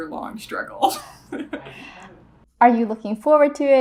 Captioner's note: laughs